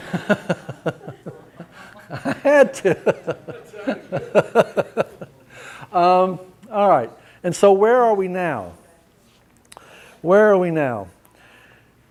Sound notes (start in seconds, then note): 2.9 laughter